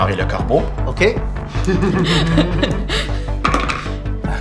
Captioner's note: laugh